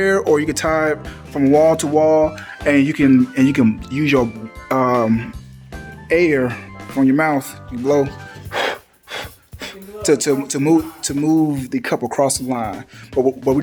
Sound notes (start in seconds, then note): 8.4 air whooshing